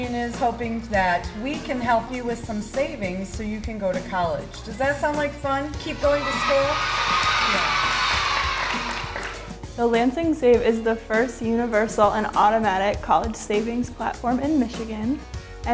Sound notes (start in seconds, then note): 7.8 clapping